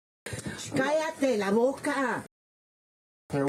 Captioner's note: woman speak in Foreign language